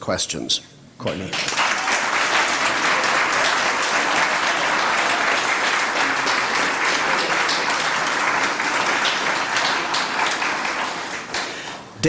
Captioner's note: applause